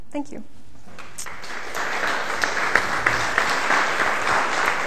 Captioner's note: applause